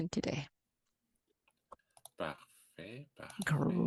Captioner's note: speaking french